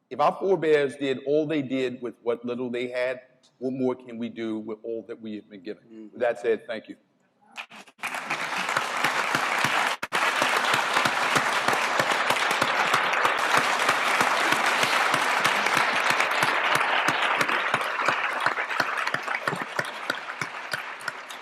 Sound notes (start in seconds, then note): 7.2 applause